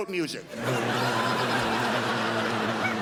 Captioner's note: crowd laughs